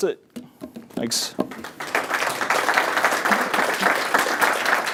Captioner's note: applause